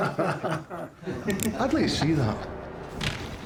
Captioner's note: everybody laughs; gun clicks, scottish accent